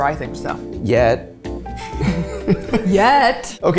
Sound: laughing

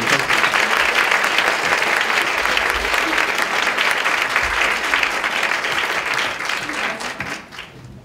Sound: clapping

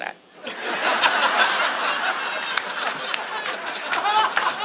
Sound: audience laughs; audience claps

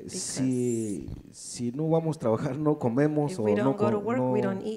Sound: speaks in foreign language

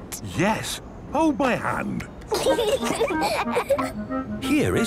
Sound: children giggling

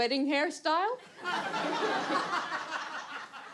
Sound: audience laughs

